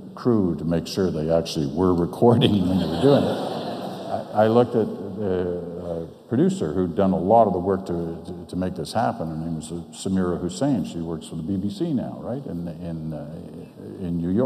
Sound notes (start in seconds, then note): 2.3 audience laughs